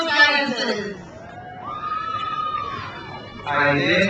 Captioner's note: crowd cheers